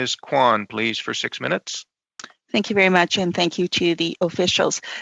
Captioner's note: speaking French